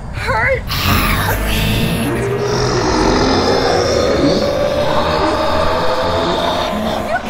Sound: voices chattering

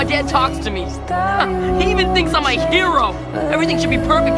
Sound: laugh

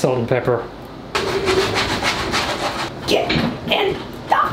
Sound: loud shuffling

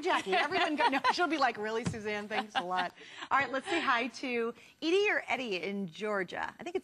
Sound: laughter

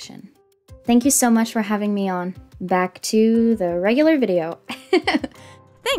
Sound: giggles

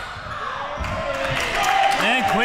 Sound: crowd clapping

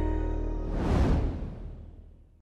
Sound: graphic whooshing

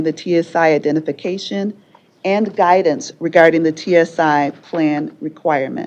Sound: none

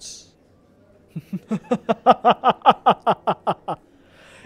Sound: intense evil laughter

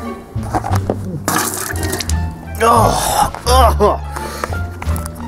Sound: spitting, groans in disgust

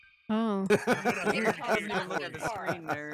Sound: laughing

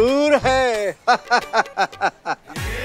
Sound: laughs

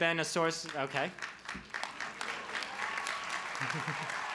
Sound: clapping

